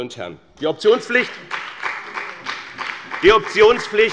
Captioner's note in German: Beifall bei dem BÜNDNIS 90/DIE GRÜNEN und der LINKEN